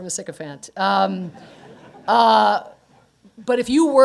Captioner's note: laughter